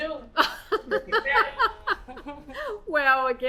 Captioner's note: laughs